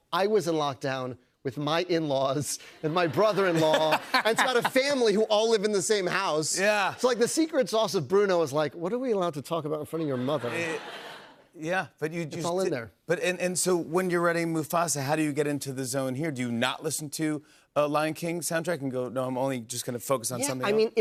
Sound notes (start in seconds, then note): 10.0 laughter